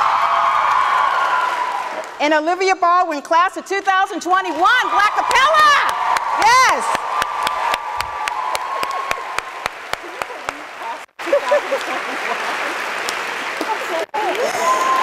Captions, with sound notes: And Olivia Baldwin, class of 2021, Blackapella, yes! (audience claps)